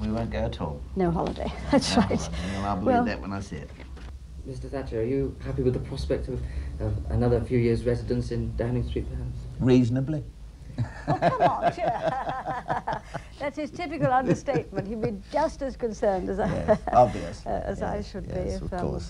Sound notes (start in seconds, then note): 10.8 laughs; 13.3 both laughing